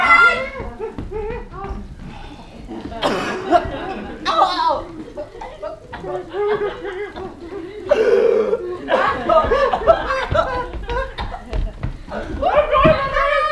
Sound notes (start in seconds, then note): 3.8 tom gags; 7.8 tom coughs and gags